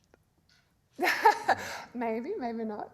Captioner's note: laughs